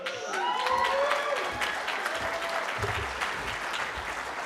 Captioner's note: cheering